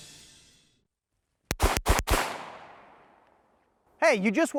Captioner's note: gun shots